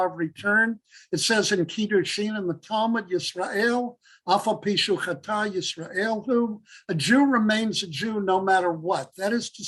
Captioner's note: Hebrew